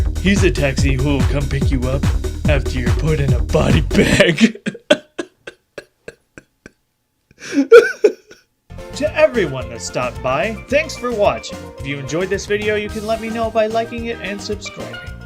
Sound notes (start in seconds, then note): 3.9 laughter